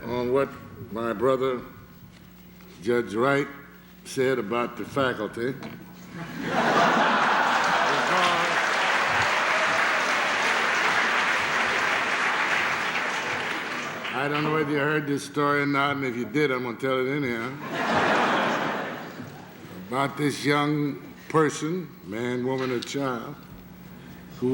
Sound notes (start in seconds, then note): 6.1 laughter; 9.9 applause; 17.6 laughter